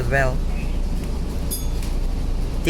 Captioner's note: bell dings